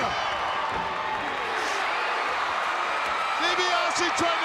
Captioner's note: crowd cheering